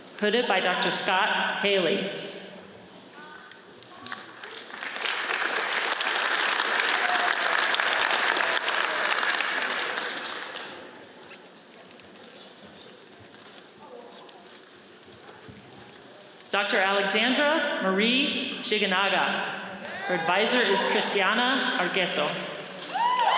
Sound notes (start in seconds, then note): 4.1 audience applauds; 20.0 audience cheers; 23.0 audience cheers and applauds